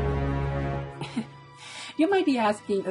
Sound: laughs

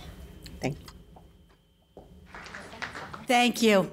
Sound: applause

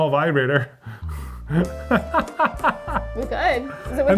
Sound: laughs; romantic music

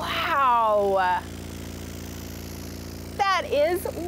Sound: speakers rumbling

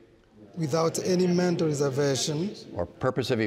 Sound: crowd

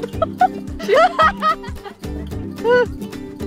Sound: laughing

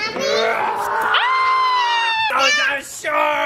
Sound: growls; screams

